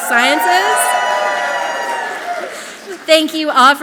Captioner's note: audience clapping and cheering loudly